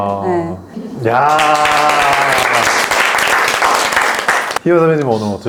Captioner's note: applause